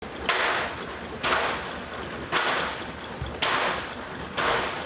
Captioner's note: machine chugging and whirring